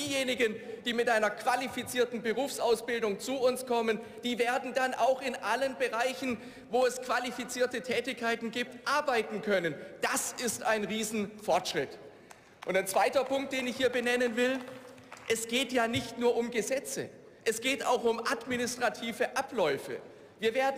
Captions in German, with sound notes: Diejenigen, die mit einer qualifizierten Berufsausbildung zu uns kommen, die werden dann auch in allen Bereichen, wo es qualifizierte Tätigkeiten gibt, arbeiten können. Das ist ein riesen Fortschritt. (Beifall) Und ein zweiter Punkt, den ich hier benennen will, es geht ja nicht nur um Gesetze. Es geht auch um administrative Abläufe.